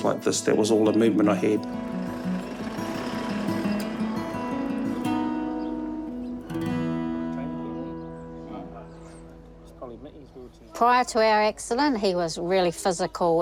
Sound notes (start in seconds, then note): 2.8 pensive guitar music; 4.8 birds twitter